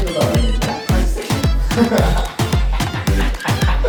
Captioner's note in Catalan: riure